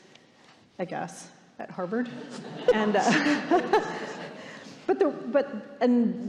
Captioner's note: audience laughing